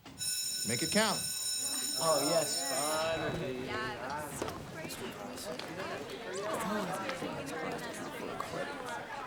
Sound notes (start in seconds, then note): 0.1 bell rings; 1.3 students chattering